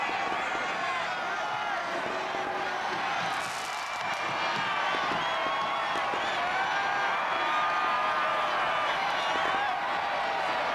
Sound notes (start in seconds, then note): 0.2 continued cheering; 5.2 firecrackers exploding